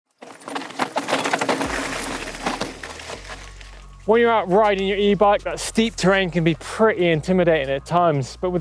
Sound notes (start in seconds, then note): 0.1 bike rattling